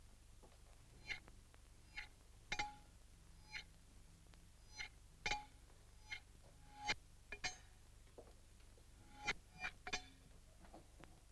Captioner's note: magnets clink